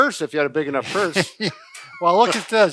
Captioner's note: both laugh